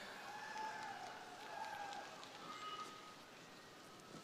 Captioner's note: crowd cheering